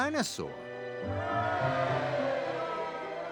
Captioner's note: cheering